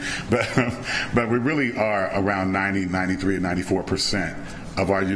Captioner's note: chuckle